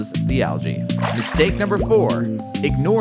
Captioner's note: water splashes